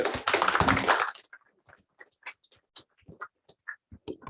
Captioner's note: applause